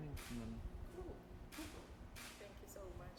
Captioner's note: camera lens clicking